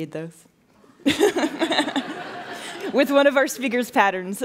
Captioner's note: laughing